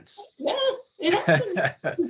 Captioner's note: laughing